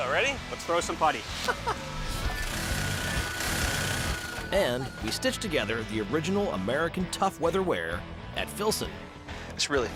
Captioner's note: laughs